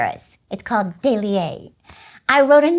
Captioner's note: speaking in French